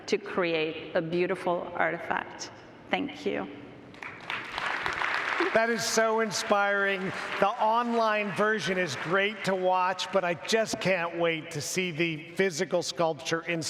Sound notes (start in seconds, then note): 3.9 audience applauds